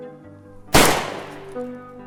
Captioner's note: gunshot